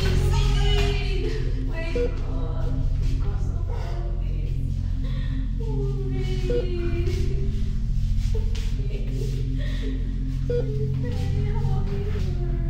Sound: inaudible sobs

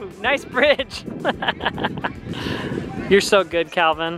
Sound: laughs

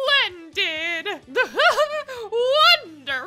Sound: laughs

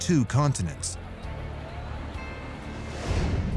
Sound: indistinct chatter and traffic

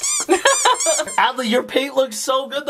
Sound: squeaky sounds

